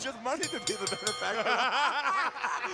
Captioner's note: bell ringing